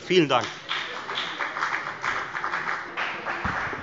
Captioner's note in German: Beifall bei der FDP